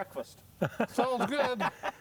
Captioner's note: laughter